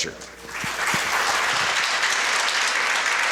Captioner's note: applause